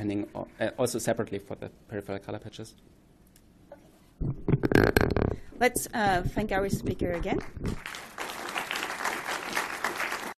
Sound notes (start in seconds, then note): 7.4 applause